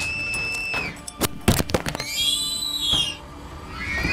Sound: shrieker sounds

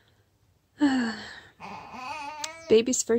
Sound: sigh

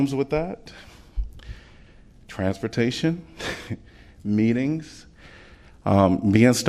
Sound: laughter

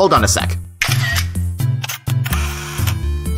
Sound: camera shutter

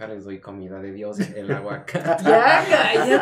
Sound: laughter

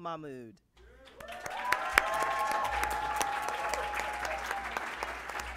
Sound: applause

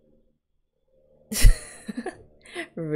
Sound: laughs

